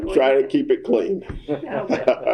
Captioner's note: laughter